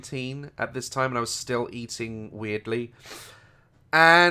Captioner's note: sniffs